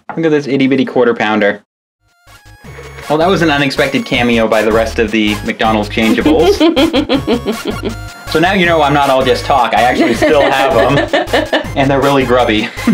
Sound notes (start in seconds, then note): 6.2 laughing